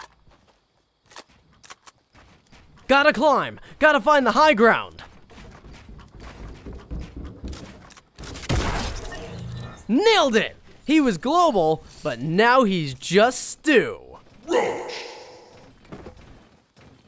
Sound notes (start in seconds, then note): 1.6 gun clicks; 8.3 gun bangs